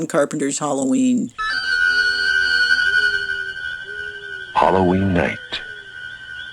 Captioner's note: soundbite of archived recording